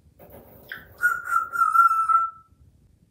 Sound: whistling

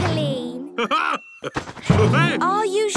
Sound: laughs

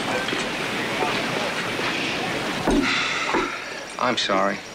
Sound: sighs

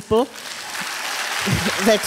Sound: applause

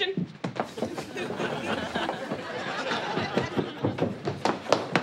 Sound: studio audience laughs

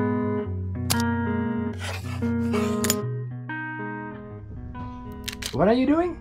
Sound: gentle guitar music; typewriter click; pencil scribbling

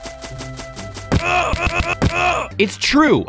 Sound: tree rustling; Stan grunting

